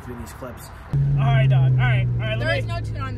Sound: engine revving

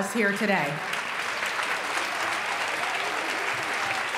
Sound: applause

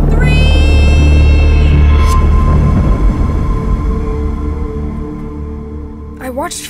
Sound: screams

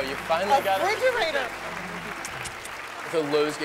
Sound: smooches

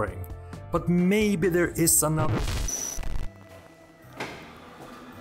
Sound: glitches and crackles

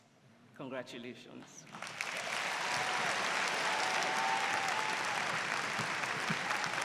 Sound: applause

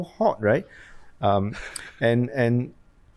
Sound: laughs

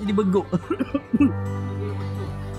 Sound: cough

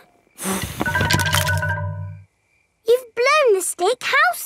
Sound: blowing

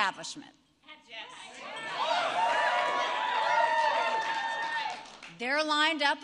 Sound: applause

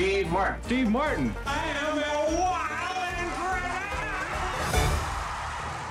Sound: audience cheering

